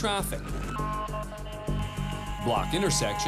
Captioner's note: honking